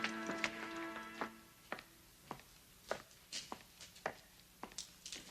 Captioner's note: footsteps clicking